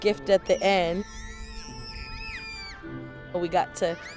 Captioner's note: children screaming